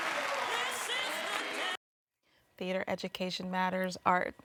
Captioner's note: audience applauding